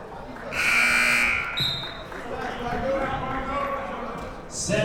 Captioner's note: buzzer blares